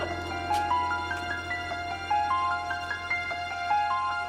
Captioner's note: weeping